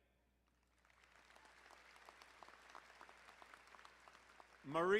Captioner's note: crowd applauding